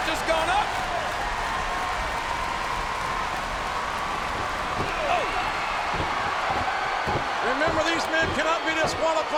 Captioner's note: applause